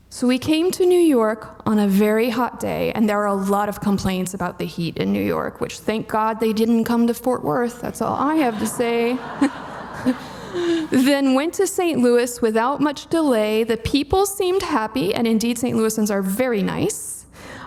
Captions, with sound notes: So, "We came to New York on a very hot day," and there are a lot of complaints about the heat in New York, which thank God they didn't come to Fort Worth. That's all I have to say. (audience laughing) "Then went to St. Louis without much delay. The people seemed happy." And indeed St. Louisans are very nice.